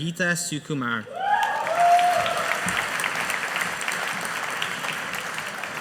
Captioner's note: audience applauding